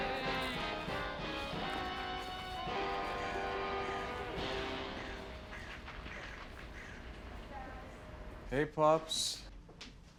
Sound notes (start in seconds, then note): 2.8 audience applauding